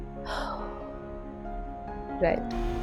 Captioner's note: exhales